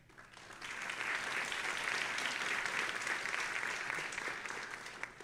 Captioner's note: audience applauding